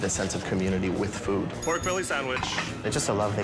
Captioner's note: bell rings